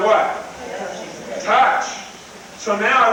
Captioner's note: crowd